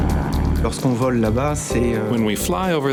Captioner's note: speaking in foreign language